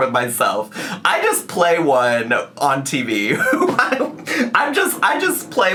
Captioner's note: laughs